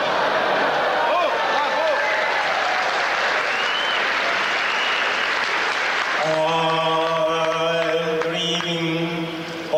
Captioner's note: applause